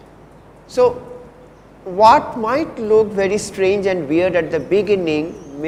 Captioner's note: distortion